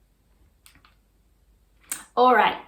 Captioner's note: mouse clicks